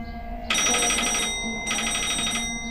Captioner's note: phone ringing